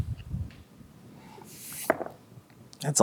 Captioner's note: dice rolling